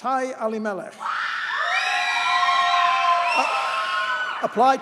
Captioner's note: audience cheers and applauds